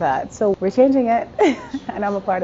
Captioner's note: laughs